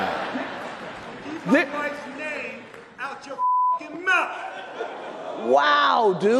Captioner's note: beeps